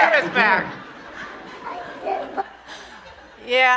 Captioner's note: audience laughing